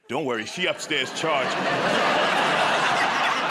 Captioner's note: laughter